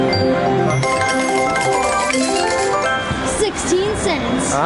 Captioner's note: machine dings